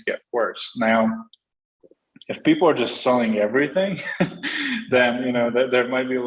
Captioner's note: chuckles